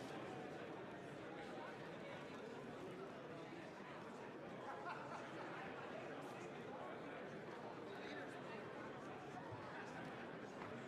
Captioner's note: crowd Noise